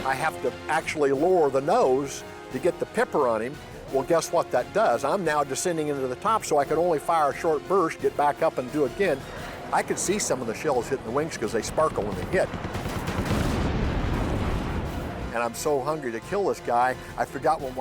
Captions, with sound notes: I have to actually lower the nose to get the pipper on him. Well, guess what that does? I'm now descending into the top. So I can only fire a short burst, get back up, and do it again. I could see some of the shells hit the wings because they sparkle when they hit. [explosion] And I'm so hungry to kill this guy, I forgot